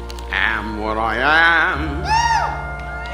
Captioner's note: audience members whooping